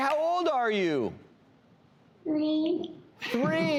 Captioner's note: laughing